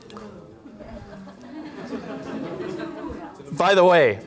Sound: laughter

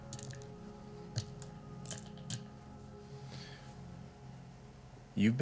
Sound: dice rattling

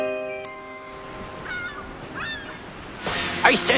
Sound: seagulls squawking

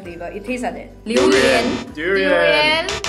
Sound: in chinese

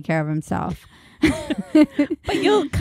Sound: laughing

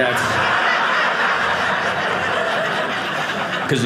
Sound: audience laughing

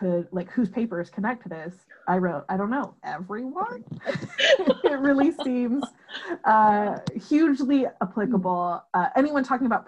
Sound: laughter

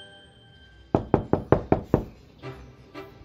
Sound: knocking

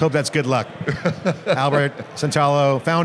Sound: laughs

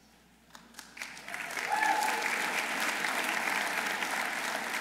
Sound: audience applauding

